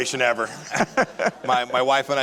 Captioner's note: laughs